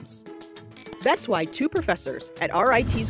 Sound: buzzing sound

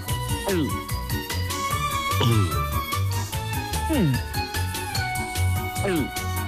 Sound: penguins gulping as they swallow

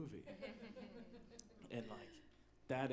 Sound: audience laughs

